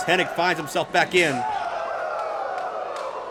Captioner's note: crowd